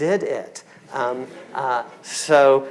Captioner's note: audience laughing